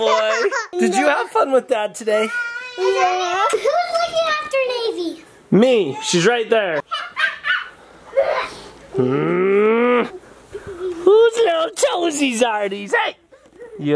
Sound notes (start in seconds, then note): 6.8 making monkey noises; 8.9 growls